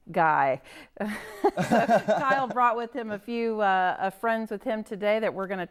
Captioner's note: laughs